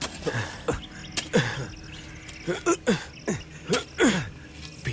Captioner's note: Grunts